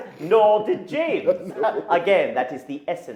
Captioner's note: men laughing